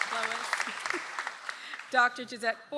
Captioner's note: audience applauds